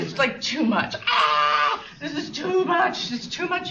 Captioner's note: fake screams